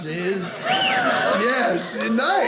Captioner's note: audience member whistles